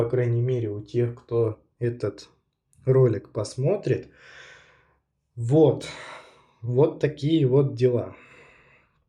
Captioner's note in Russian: тяжело вздыхает